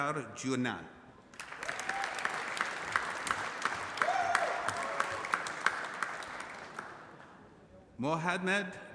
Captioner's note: applause